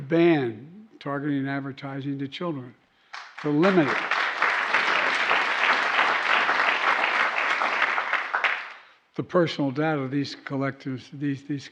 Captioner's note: applause